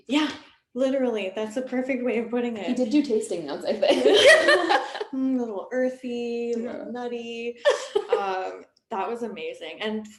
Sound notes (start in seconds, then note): 4.0 laughing